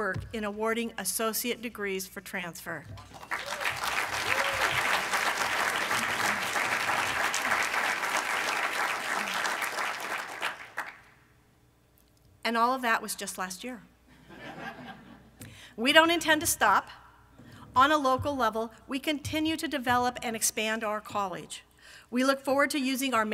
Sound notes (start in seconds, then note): 3.1 applause from the audience